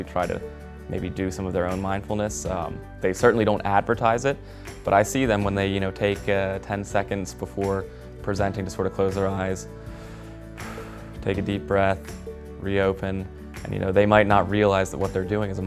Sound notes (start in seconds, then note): 9.7 exhales; 9.7 inhales